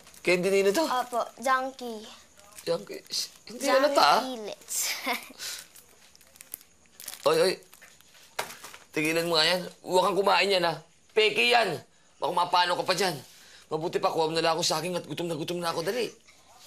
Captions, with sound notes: -Whose candy? -That’s right, Junkie’s. -Junkie’s? It’s not so obvious. -"Junkielets." [laughs] Hey, hey, stop eating those. Don’t eat those things. Those are fake. You might get sick. Why don’t you get me a banana, I’m so hungry. Hurry up.